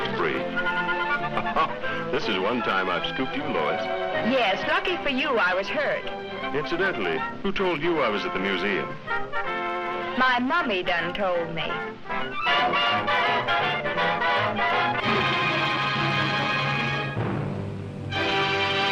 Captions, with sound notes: (chuckles) This is one time I've scooped you, Lois. - Yes, lucky for you I was hurt. - Incidentally, who told you I was at the museum? - My mummy done told me. (dramatic music) (dramatic music)